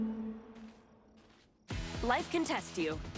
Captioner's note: footsteps